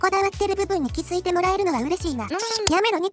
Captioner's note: fanservice noise